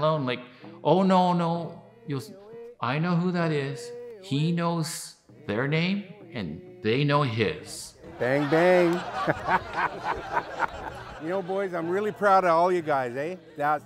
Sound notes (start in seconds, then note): 8.0 all laugh